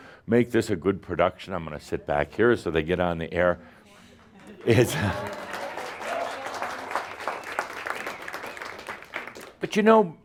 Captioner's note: audience applause